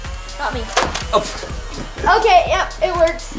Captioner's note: shoots gun